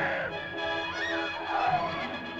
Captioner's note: caveman screams; suspenseful music; women scream; suspenseful music